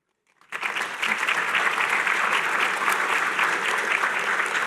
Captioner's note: applause